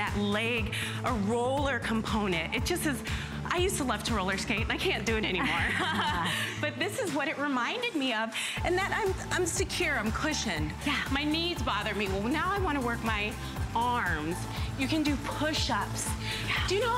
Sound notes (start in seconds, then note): 5.4 laughter